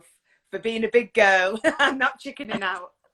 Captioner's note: laughs